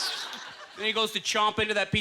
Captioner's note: choking